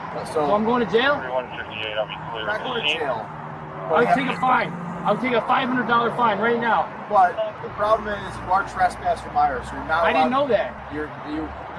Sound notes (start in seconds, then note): 1.5 radio chatter